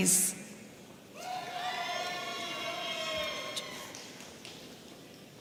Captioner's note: audience cheering